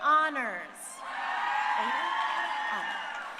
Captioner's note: crowd cheering